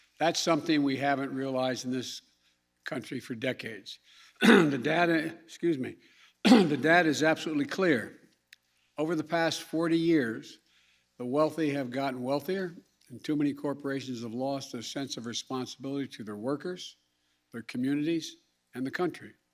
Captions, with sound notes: That's something we haven't realized in this country for decades. The data -- (clears throat) -- excuse me. The data is absolutely clear. Over the past 40 years, the wealthy have gotten wealthier, and too many corporations have lost their sense of responsibility to their workers, their communities, and the country.